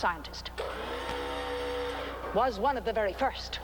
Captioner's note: platform whirs